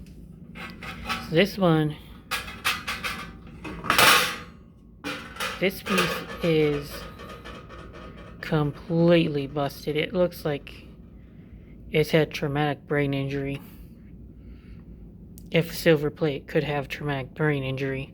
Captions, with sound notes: This one... (clank of bowl) This piece is... completely busted it looks... like it's had traumatic brain injury. If silver plate could have traumatic brain injury...